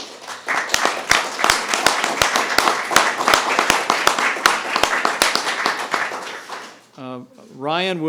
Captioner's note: applause